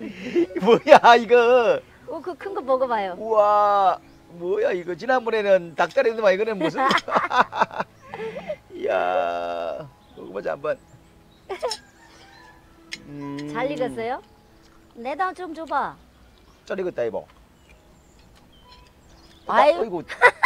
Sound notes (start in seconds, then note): 6.5 both laughing